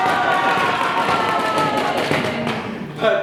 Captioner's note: animals cheer